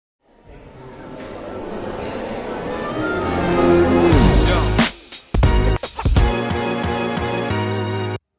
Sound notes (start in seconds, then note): 0.2 audience chattering; 1.1 upbeat music